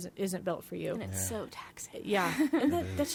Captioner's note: laughs